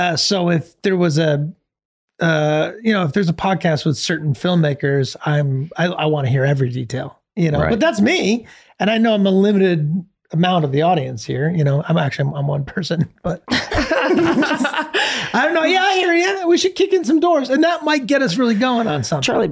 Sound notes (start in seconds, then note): 13.4 everyone laughing